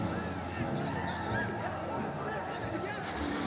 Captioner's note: cheering in the distance